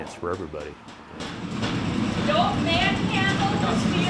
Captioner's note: machine thudding